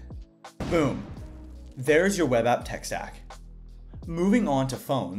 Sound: explosion effect

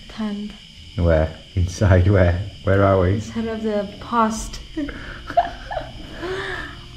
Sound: laughing

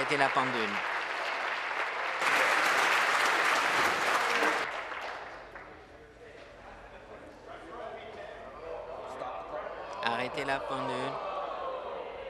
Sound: applause

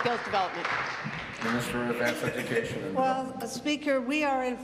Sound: applause

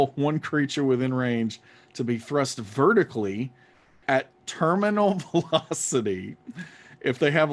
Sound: laughing

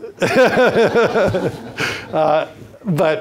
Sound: everyone laughs

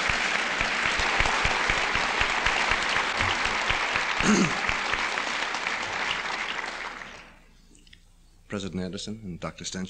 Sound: applause

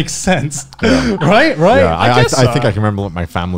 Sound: laughing softly

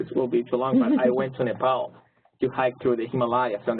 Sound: laugh

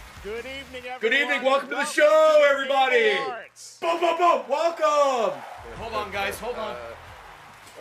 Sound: bang bang bang

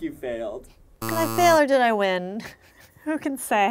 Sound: negative buzzer

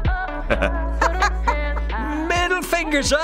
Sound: chuckles; laughs

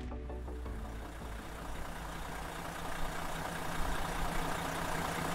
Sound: car engine roaring

